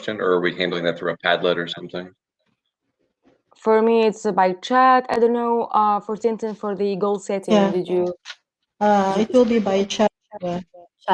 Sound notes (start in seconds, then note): 6.7 chatter